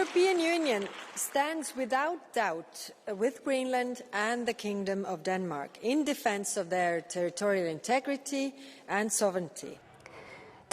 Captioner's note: applause